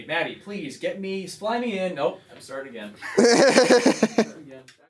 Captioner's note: laughter